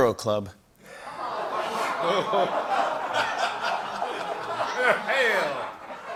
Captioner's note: laughter